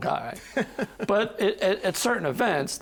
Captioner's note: laughing